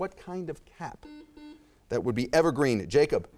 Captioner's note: buzzer chimes